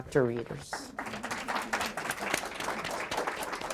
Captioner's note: applause